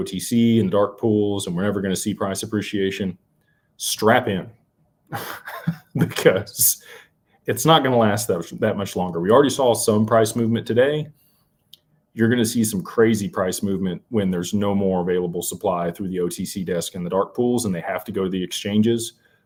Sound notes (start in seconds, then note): 5.1 laughter